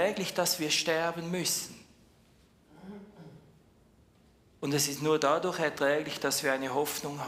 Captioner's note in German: räuspern